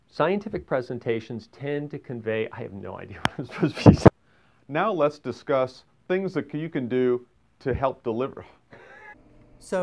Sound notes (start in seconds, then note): 3.2 laughs; 8.8 laughs